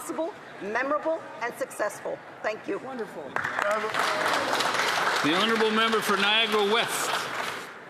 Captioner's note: speaking Alternate Language